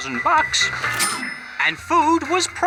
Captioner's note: cash register chimes